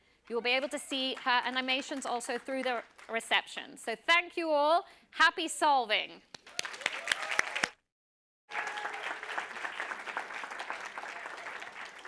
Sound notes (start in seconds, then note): 6.5 applause